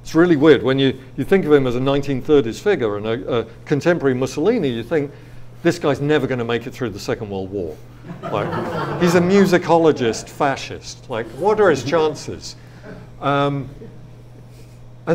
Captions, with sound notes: It's really weird, when you think of him as a 1930s figure, and a contemporary Mussolini, you think, this guy's never gonna make it through the Second World War. (audience laughs) He's a musicologist fascist, like what are his chances?